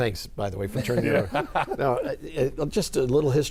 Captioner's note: laughing